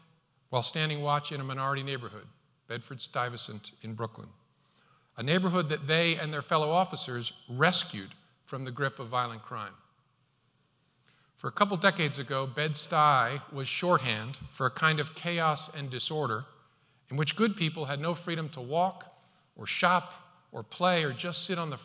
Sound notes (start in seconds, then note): none